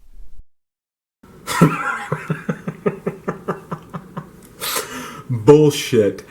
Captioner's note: laughs